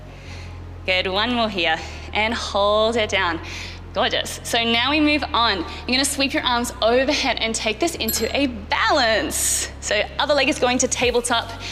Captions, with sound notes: Good, one more here, and hold it down. Gorgeous! So now we move on, you're gonna sweep you arms overhead and take this into (bell chimes) a balance. So, other leg is going to tabletop,